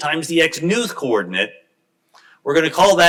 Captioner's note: none